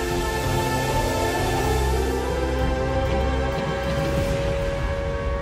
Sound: siren alarming

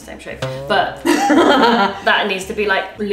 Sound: laughs

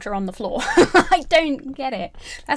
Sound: laughing

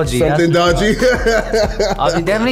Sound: laughter

